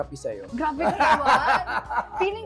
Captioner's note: laughs